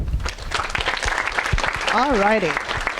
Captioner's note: audience applauding